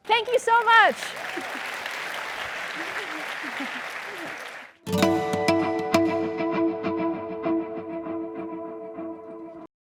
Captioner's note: applause